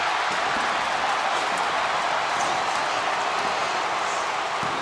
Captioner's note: crowd cheering